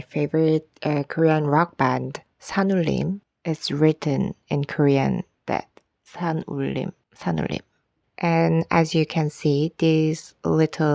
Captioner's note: Korean